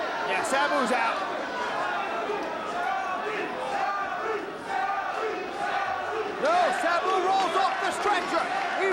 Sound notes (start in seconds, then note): 2.7 spectators chanting "Sabu!"